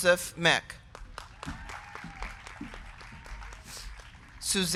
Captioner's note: crowd clapping; crowd cheering